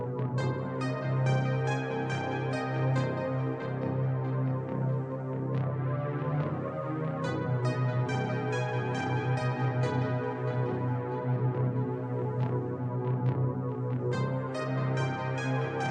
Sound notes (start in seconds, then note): none